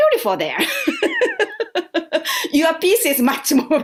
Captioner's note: laughter